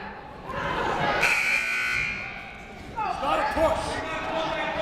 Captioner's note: buzzer blares